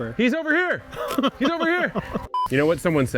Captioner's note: chuckling